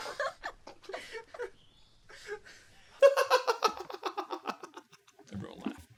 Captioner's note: laughs uproariously; laughter